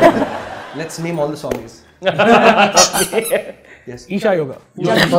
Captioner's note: laughs